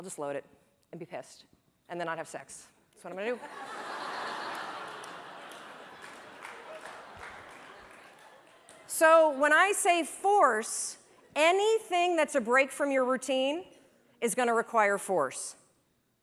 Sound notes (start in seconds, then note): 5.8 laughter; 6.9 applause